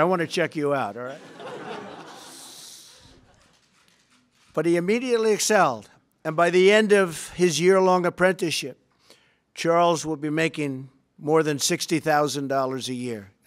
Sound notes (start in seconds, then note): 3.8 laughter